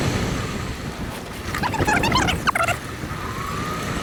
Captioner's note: squeaking